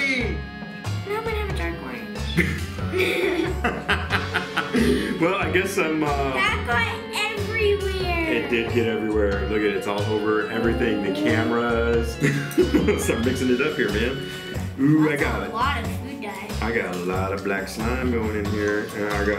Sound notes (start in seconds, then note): 2.3 laughing